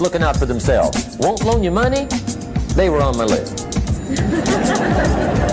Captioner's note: laughter